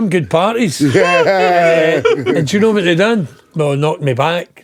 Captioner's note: laughing